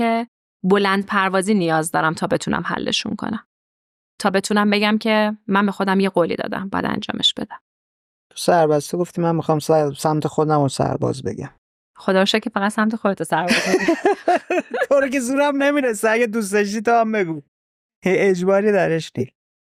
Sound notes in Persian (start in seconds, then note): 13.4 خنده